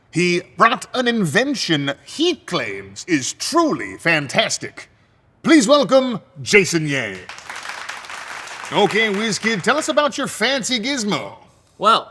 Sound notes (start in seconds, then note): 7.0 audience applauding